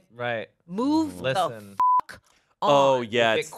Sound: beep

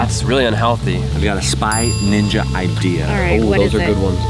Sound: ping

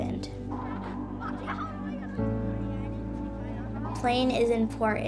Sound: children laughing

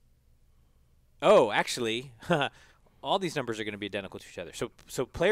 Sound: laugh

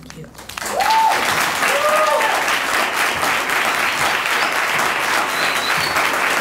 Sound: audience cheering and applauding

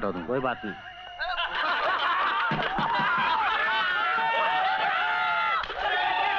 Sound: shouting

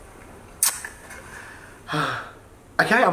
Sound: lips clicking; sighs

